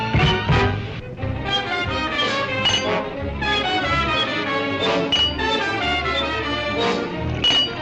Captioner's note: light dramatic music; metal clanks